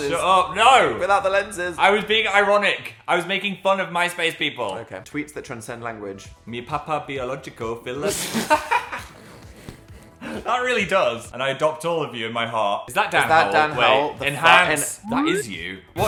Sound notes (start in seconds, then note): 8.0 Dan and Phil laughing